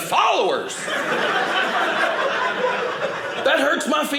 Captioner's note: audience laughing